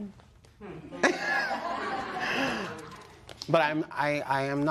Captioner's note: laughter